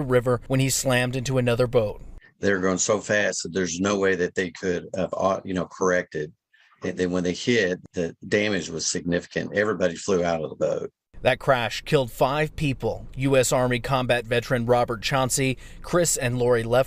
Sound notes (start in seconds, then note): 7.5 old sound from witness